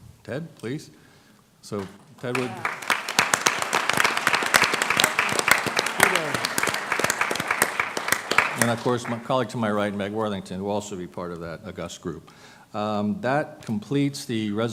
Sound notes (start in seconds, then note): 2.2 applause